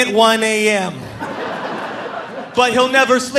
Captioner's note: audience laughing